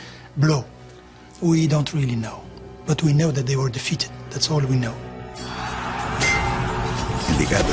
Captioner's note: shouting